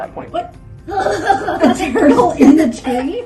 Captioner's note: laughing